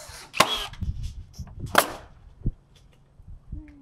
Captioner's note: drill spinning